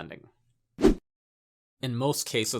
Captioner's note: graphic whooshes